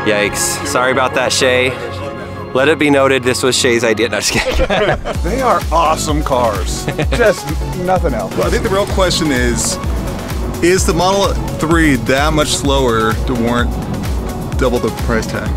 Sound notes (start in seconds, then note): 4.2 laughing